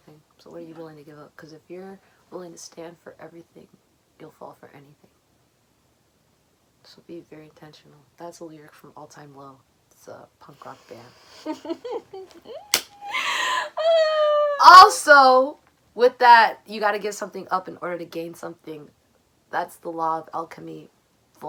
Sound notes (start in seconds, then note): 11.1 more giggles